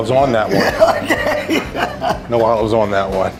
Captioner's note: laughing